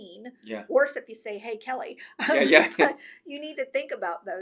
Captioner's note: laughs